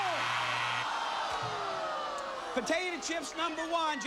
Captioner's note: audience moans